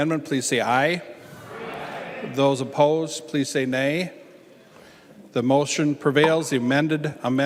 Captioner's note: chorus of ayes